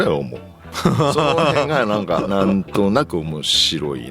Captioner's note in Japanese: 笑い